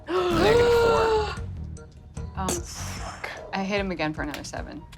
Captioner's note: gasps